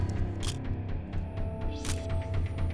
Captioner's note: camera shutter click